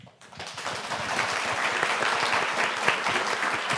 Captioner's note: all applauding